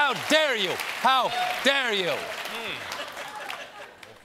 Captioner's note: applause